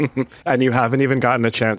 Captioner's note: chuckles